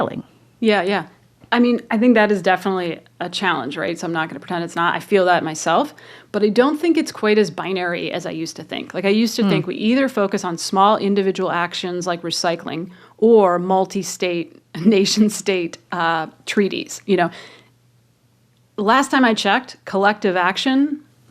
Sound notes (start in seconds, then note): none